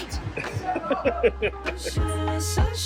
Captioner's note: chuckles